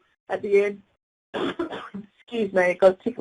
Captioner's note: coughs